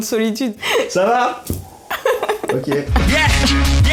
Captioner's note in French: Bruit du vent